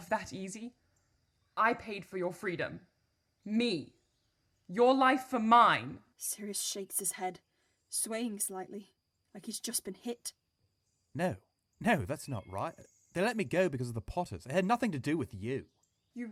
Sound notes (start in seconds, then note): none